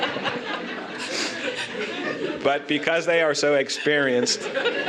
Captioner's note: laughter